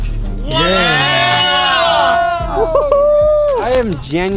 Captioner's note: crowd cheers